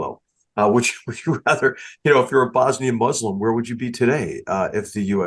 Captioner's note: laugh